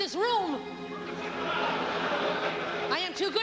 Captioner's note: laughter